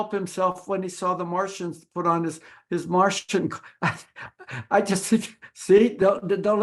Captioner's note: laughing